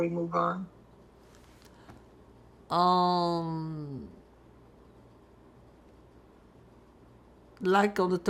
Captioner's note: pauses 6 seconds